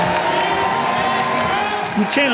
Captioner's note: crowd cheers